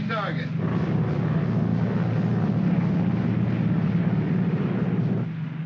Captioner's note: aircraft rumbles